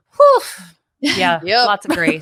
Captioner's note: laughs